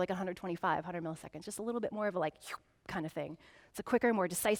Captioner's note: slurping